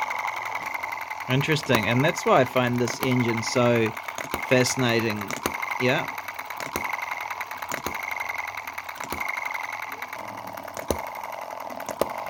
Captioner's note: engine runs